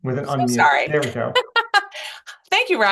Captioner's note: laughs